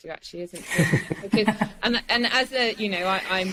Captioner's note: laughs